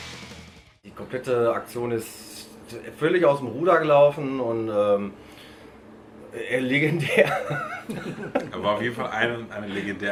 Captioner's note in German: lachen